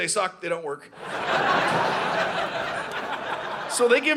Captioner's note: audience laughing